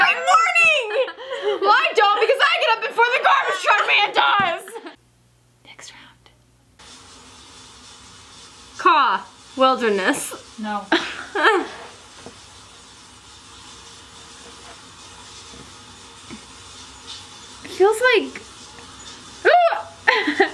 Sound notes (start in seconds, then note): 7.0 water runs; 11.0 laughs; 19.4 trills